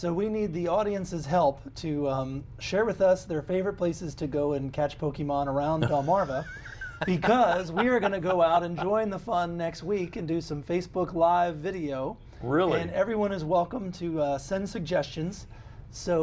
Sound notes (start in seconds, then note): 5.8 laughter